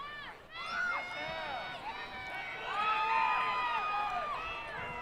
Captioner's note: audience cheering